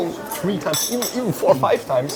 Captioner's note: glass clattering